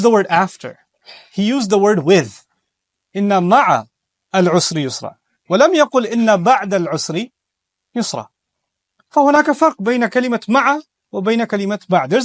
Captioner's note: speaking arbic